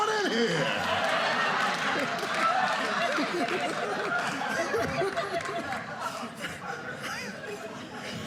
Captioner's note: audience laughing